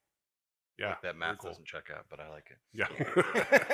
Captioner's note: laughs